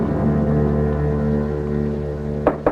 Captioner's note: knocking